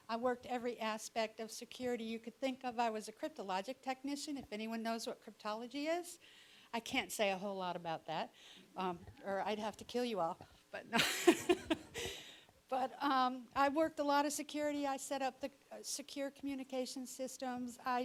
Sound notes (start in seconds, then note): 11.0 laughing